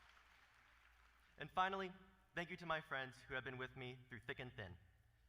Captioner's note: applause